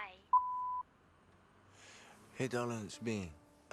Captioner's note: voicemail beeps